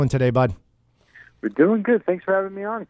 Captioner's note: voiceover